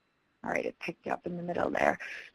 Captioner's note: voiceover